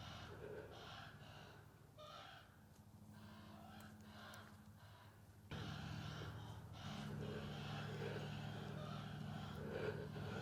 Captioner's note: young ravens calling